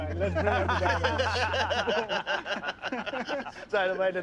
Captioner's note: laughter